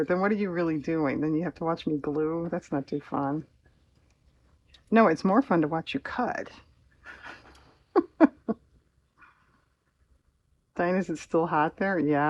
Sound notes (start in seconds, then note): 7.9 laughs